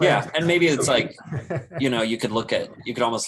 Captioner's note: laughs